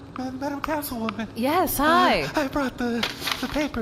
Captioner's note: whispery, quavery, terrified; voice still shaking